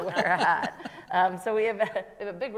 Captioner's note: panel laughs; laughs